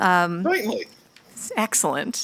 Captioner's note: bell